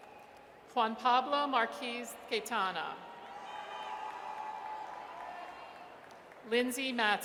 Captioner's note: audience cheers